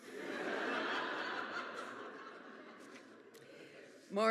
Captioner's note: audience laughs